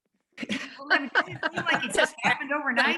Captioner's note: laughter